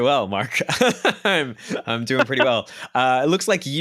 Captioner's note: laughs